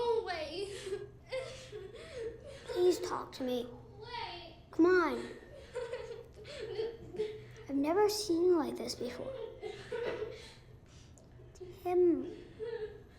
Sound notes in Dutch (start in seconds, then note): 6.4 huilend